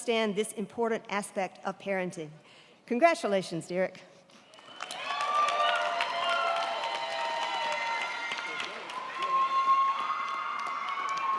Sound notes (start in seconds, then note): 4.5 crowd clapping; 4.5 crowd cheering